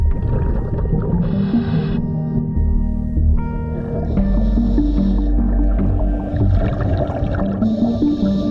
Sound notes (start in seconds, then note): 3.3 underwater sounds